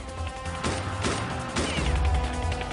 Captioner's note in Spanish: Disparos